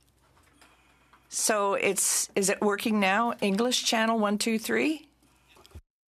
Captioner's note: speaking French